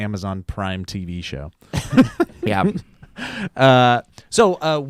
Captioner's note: laugh